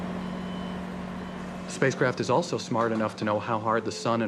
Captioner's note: truck rumbling